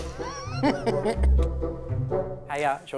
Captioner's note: Jordan laughs